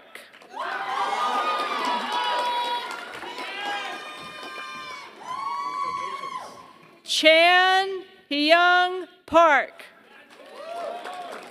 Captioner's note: applause